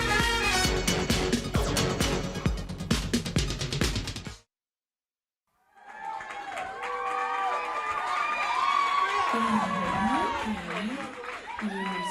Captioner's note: crowd cheering